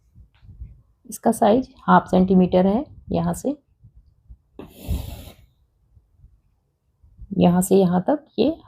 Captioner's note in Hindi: नाक से की जाने वाली आवाज़